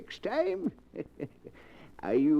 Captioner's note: chuckles